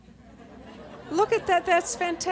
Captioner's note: laughter